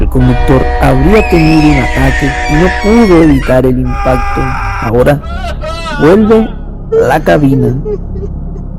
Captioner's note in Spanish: grito